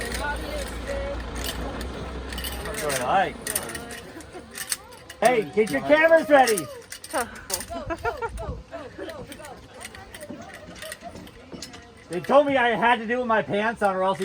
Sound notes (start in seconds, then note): 6.1 woman laughs